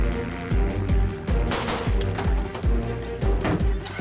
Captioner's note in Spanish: Disparos